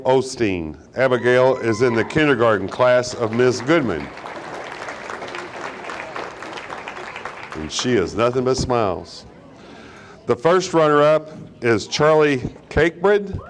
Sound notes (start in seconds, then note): 3.4 audience applauding; 8.2 audience chuckling